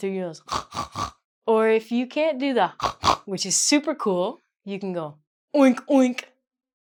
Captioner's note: snorts